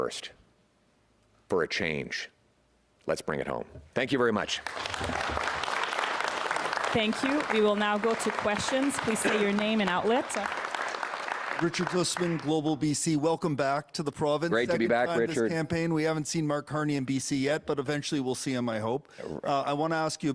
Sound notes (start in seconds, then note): 11.8 applause